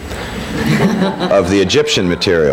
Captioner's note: people laughing